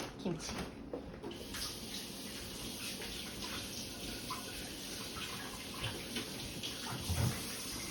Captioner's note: water in the background